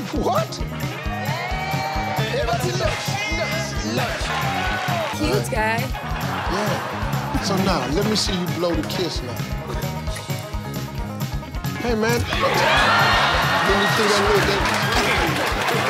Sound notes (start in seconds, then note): 3.2 family chanting; 5.9 people laughing; 11.9 people laughing